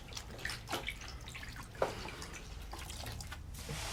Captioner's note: water splashing